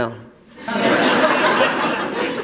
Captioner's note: laughter